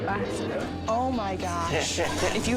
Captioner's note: John laughs